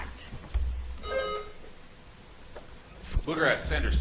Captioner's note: buzzer chimes